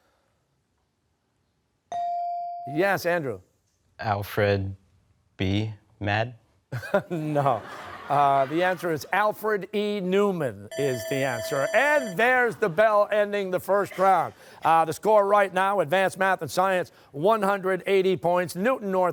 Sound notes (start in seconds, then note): 6.7 laughs; 10.7 buzzer